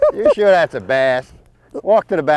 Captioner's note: laughter